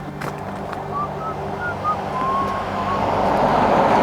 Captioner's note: whistling